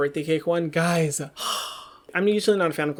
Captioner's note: sighs